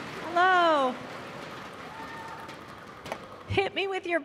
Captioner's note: cheers and applause